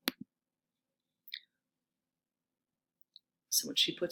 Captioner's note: mouse clicking